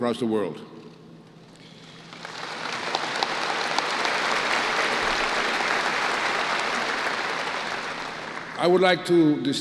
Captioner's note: applause